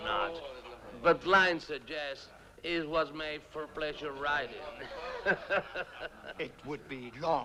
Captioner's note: laughs